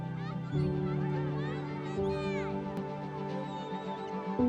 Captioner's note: calm music; children chanting